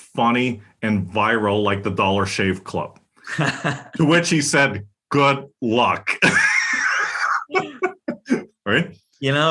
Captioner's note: laugh